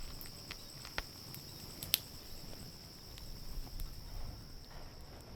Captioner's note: fire crackles